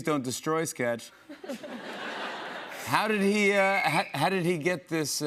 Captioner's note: laughter